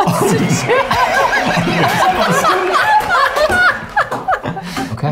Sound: all laughing

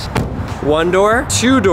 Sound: car door banging

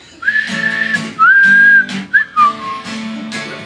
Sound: whistling

